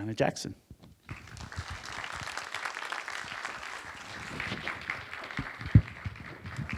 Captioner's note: applause